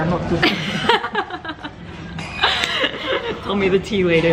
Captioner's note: gigling; laugh